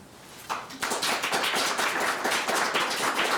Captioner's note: all claps